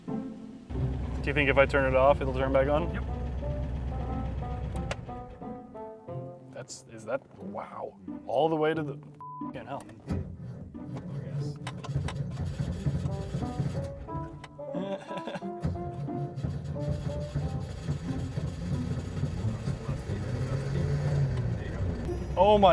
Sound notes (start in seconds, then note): 10.0 engine struggling; 14.6 nervous laugh; 20.4 engine starts